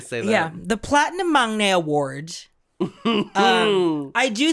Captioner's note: chuckles